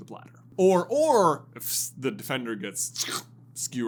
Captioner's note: squelching sound